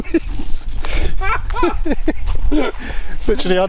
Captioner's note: laughs